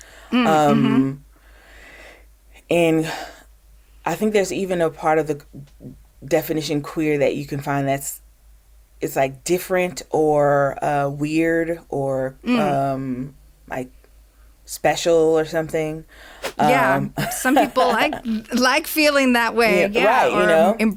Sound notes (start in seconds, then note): 15.3 laughs